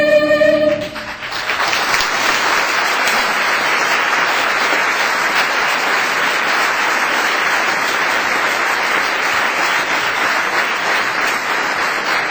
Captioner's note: applause